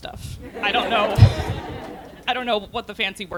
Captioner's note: laughter